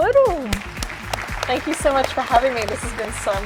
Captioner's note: applause